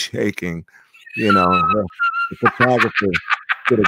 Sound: laughing

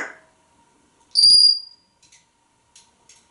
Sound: whistling

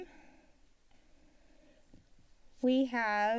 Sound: silence

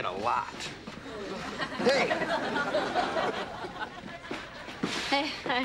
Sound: audience laughing

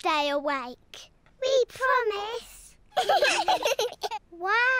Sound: both giggle

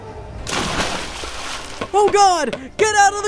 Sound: water splashes

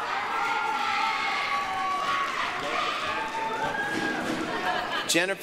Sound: applause, cheering

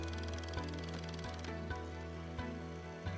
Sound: jack hammer rumbles

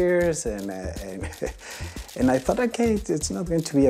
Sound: laughs

